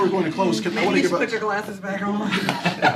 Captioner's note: laughter